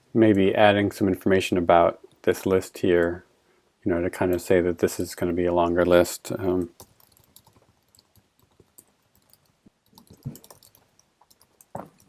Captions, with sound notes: maybe adding some information about this list here, you know, to kind of say that this is going to be a longer list. (keyboard clicking)